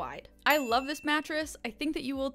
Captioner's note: bell chiming